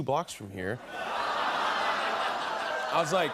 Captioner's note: laughter